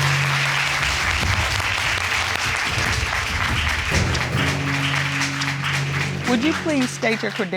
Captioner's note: audience applauding; dramatic music playing